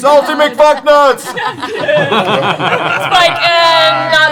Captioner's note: laughter